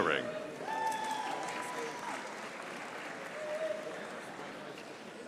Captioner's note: audience applauding